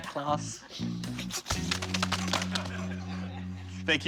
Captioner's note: laughter